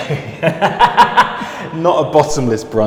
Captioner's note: laughing